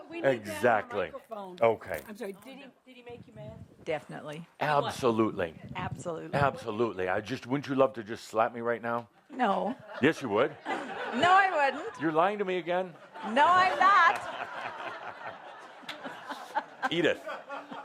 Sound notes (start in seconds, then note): 13.0 laughter; 14.8 more laughter; 16.8 laughs